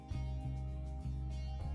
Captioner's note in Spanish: none